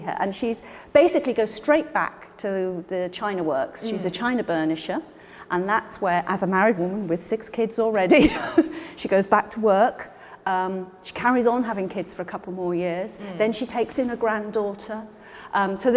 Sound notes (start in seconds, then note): 8.1 Ruth laughing